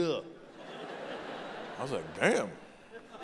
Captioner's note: audience laughing